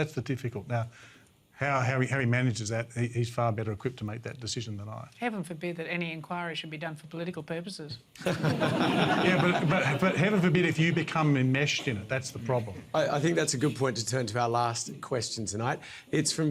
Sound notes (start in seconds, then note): 8.2 laughter